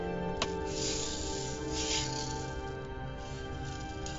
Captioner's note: jingling